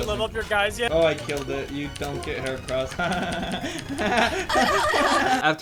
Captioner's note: obnoxious laughing